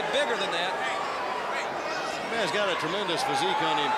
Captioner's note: crowd cheering